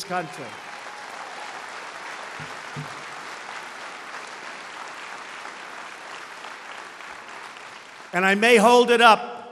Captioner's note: applause